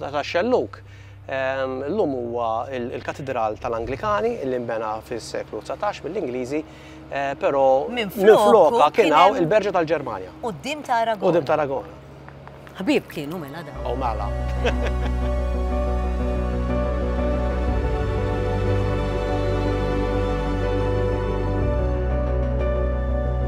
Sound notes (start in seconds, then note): 14.4 laughs; 15.7 ambient music